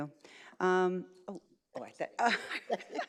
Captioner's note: laughs